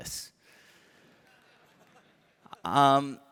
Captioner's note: laughter